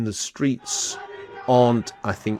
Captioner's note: people chanting